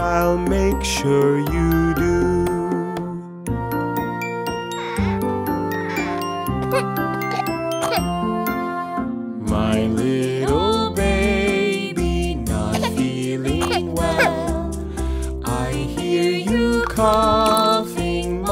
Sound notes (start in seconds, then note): 3.9 soft music; 6.5 baby coughs; 13.5 baby coughs